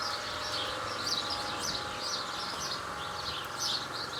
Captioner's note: birds chirping